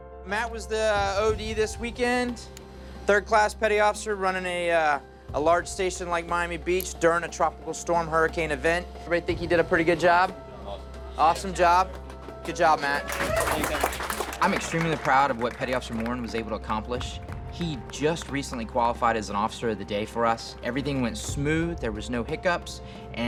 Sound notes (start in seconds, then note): 11.3 muttering affirmations; 13.7 applauding